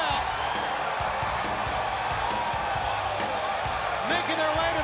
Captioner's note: crowd cheering